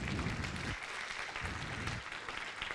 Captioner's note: applause